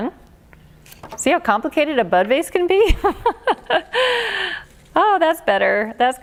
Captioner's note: laughs